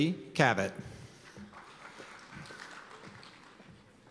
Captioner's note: applause